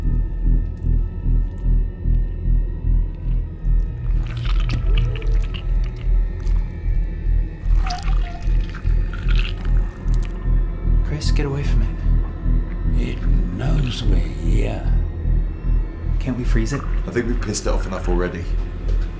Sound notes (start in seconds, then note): 3.2 tentacle crunching; 4.0 flesh squelching; 7.7 glass squeaking